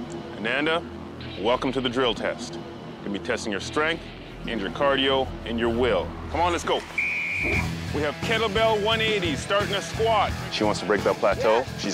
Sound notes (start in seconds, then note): 0.0 tense music; 6.9 whistle blows